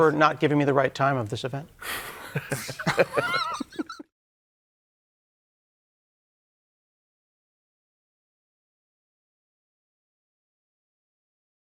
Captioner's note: laughter